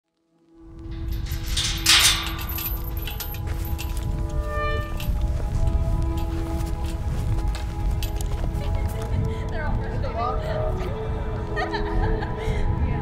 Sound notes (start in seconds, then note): 0.9 chains clinking; 4.4 metal squeaking; 6.3 atmospheric music plays; 8.9 woman laughing in background